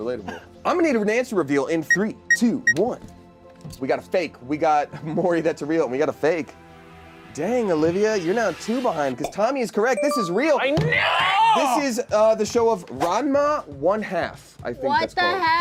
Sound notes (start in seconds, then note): 3.0 timer clicks